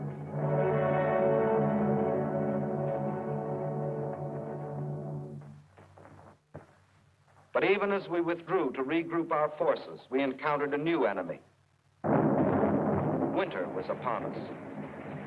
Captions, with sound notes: [somber music] But even as we withdrew to regroup our forces we encountered a new enemy. [thunder rumbling] Winter was upon us.